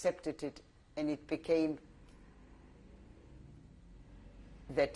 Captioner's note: pauses for 3 seconds